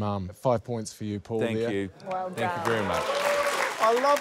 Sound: applause

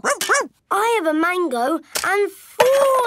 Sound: barks

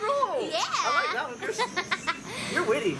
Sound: laughing

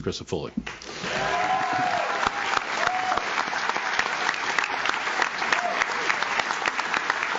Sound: audience claps; audience cheers

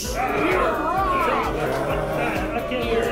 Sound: all grumbling and booing

